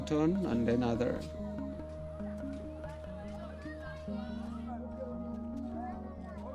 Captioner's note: people chattering